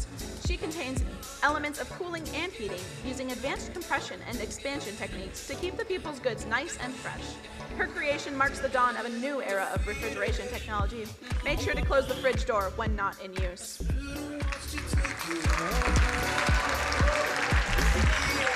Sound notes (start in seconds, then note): 14.4 crowd applauding